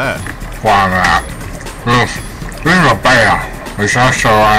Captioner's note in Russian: чавкание